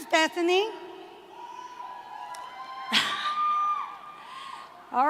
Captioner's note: cheering